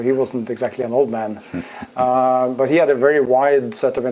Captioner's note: laugh